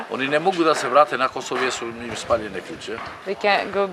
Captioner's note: speaks in foreign language